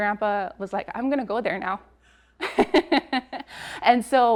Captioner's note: laughs